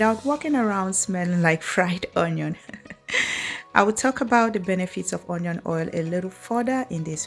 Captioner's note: ha ha